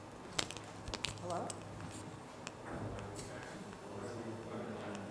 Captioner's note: chatter